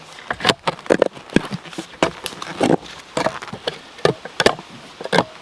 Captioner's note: shovel rasping; tree roots crunching